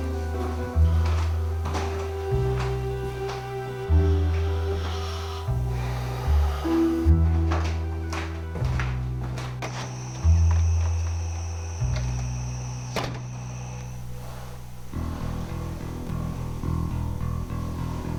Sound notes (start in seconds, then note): 5.9 Ramon sighing; 9.6 crickets chirping